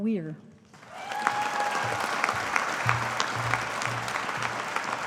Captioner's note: audience applauding